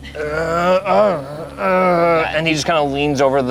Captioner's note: grumbles